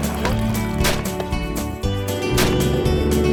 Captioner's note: gunshots; boat motor